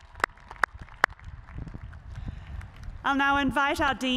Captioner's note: cheers and applause